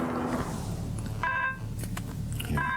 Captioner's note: phone ringing